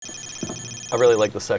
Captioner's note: hacking computer sound